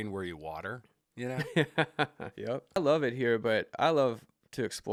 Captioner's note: laughs